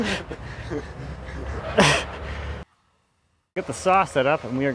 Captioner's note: laughing